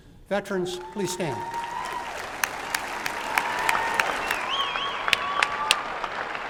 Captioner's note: applause and cheering